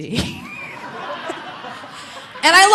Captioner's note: audience laughing